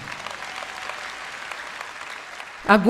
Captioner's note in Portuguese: audiência aplaude